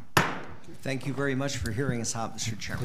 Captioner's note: gavel bangs